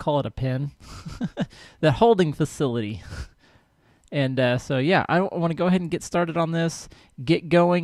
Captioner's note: laughs